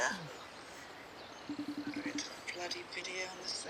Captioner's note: FaceTime tone ringing